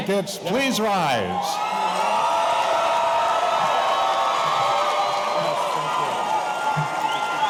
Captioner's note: audience cheering; audience applauding